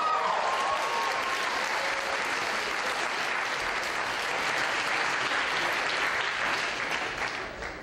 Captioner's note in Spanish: vítores y aplausos